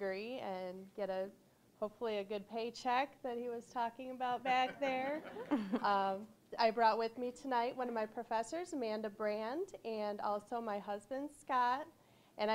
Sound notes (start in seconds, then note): 4.5 audience laughing